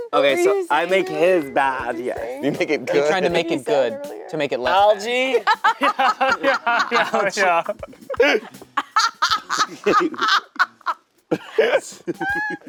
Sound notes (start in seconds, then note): 5.2 laughing; 9.1 laughing louder